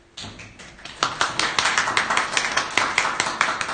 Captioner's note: applause